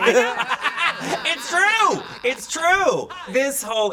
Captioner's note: laughing